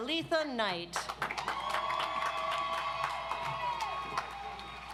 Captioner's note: audience applauds